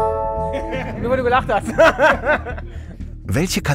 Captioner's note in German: Lachen